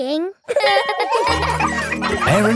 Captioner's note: laughing